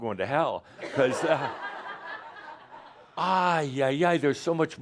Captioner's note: laughter